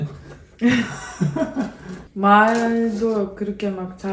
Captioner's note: laughing